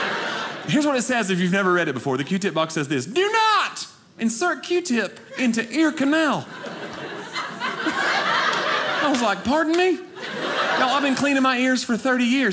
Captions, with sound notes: Here's what it says. If you've never read it before. The Q-tip box says this, do not insert Q-tip into ear canal. (audience laughing) I was like pardon me? Now I've been cleaning my ears for 30 years,